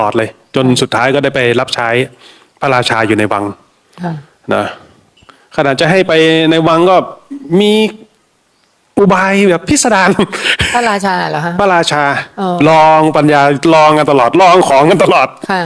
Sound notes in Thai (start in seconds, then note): 10.1 เสียงหัวเราะ